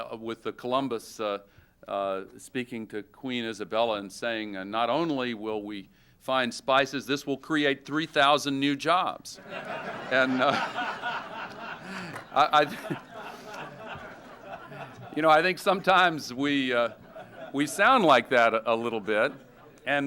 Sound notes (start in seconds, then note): 9.4 laughter